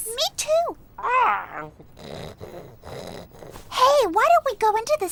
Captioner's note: owl snoring